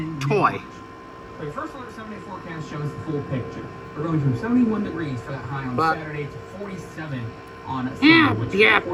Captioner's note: TV still plays in background